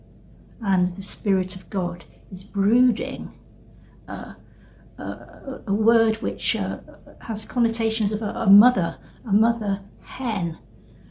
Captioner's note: breath